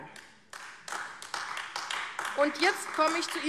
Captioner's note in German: Beifall AfD